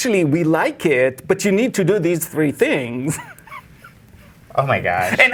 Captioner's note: laughs